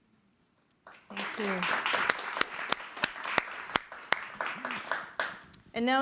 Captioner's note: audience applauding